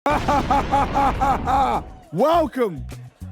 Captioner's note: JJ laughs